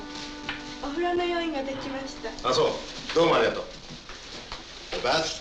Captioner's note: speaking in foreign language